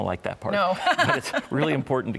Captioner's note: laughs